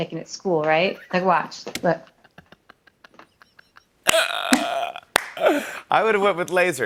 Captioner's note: laughs